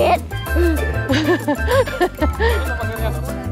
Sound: chuckled

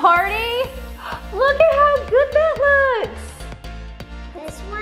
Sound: gasps

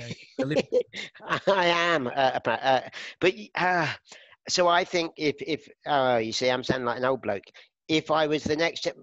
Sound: more laughter

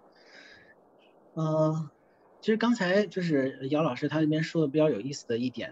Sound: Mandarin

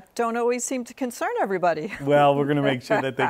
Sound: laughs

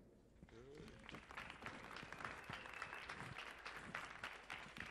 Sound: audience applauds

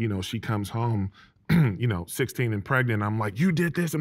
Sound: clears throat

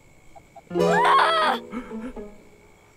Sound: she screams

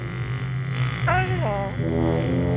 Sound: moaning

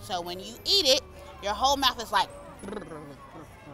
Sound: makes shivering noises

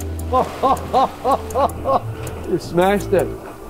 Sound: man laughing

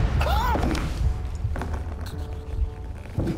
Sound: coughs

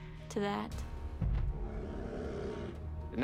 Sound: growling

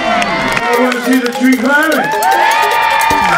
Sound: voiceover; crowd cheering

